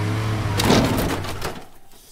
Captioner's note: deflating tires; crash